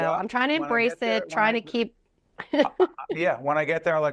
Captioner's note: laughing